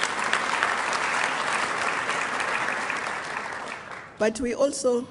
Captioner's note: applause